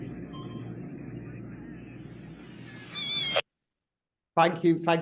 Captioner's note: equipment beeping; seagull cawing